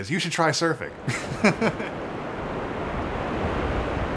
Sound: laughing

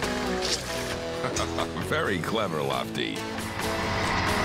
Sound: chuckling

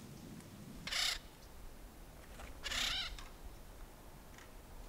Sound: hawks squawking

